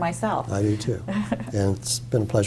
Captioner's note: laugh